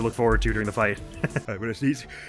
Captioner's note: chuckles